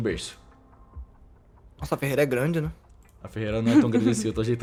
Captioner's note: chuckles